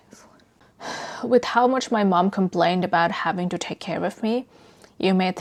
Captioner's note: sighs